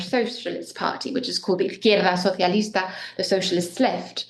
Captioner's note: speaks in foreign language